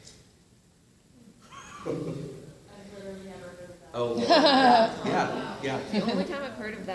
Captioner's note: laughs